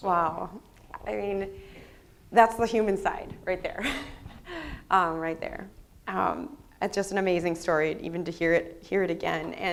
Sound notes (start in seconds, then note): 3.8 laughs